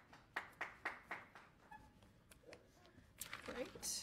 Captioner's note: audience applauds